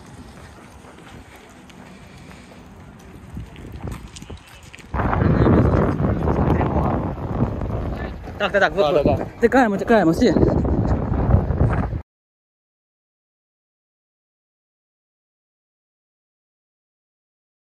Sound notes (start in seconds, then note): 4.9 sounds of explosions